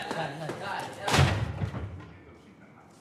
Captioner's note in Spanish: portazo